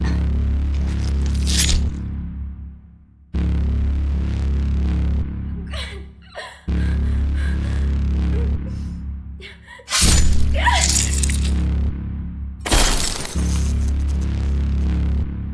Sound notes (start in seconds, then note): 5.7 gasping; 9.9 chop and brief scream; 12.6 smashing of light